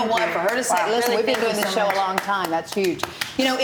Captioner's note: applauding